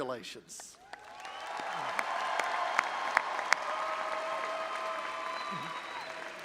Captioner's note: audience applauding and cheering